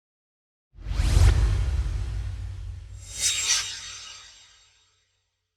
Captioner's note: swoosh